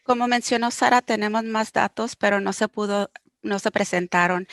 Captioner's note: speaking foreign language